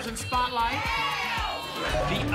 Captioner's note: audience shouting letters